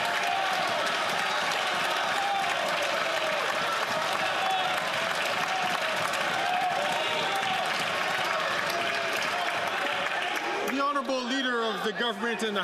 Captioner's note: some Applause